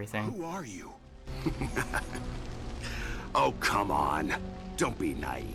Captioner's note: laughter